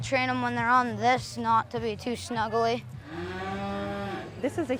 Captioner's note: cow mooing